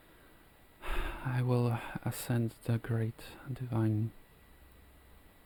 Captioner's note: sighs